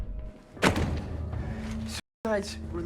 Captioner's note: book thuds